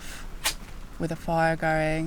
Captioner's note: match strike